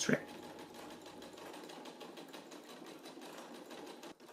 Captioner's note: machine whirring